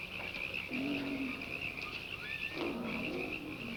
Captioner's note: growling